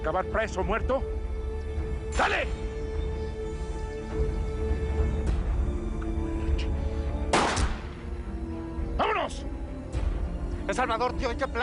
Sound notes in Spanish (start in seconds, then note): 7.3 Disparo